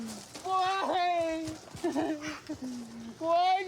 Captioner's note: sobs